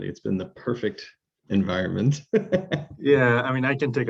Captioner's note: laughs